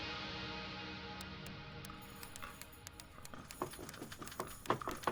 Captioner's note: door lock clinking; door lock rattling